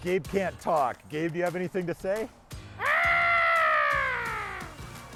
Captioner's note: cry